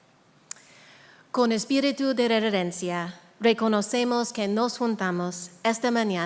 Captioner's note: speaking in a foreign language